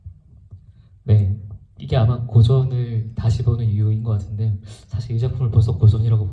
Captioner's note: speaks in foreign language